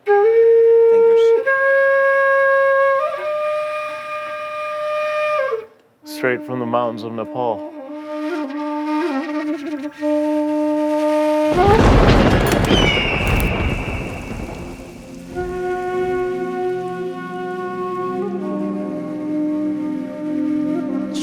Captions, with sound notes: (melancholic flute resounding) - Straight from the mountains of Nepal. (lightning cracking) (eagle cawing) (rain softly pattering) (melancholic flute resounding)